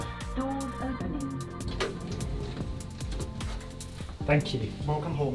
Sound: automated Voice

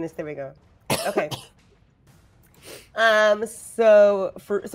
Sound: coughs

